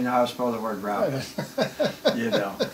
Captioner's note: laughs